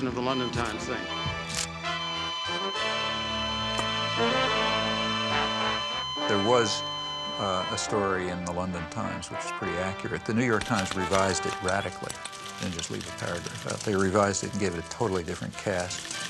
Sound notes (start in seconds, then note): 2.6 dramatic music; 2.6 flatline beep resonating